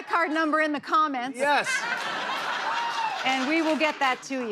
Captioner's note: laughter